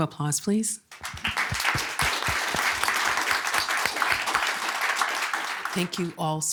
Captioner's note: audience clapping